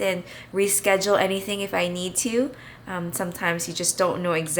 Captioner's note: none